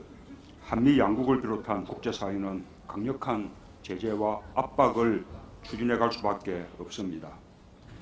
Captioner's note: Korean